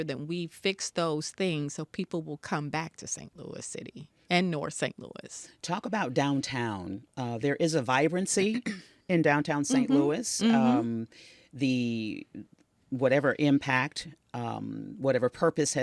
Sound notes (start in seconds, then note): 8.0 Tishaura clears throat; 10.4 Tishaura mmhmming